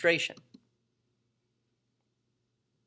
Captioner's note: click